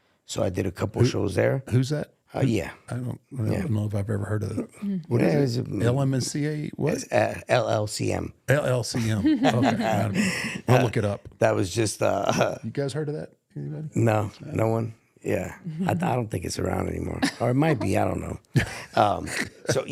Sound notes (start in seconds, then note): 8.9 Rey laughs; 9.0 chuckles